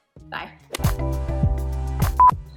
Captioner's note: beep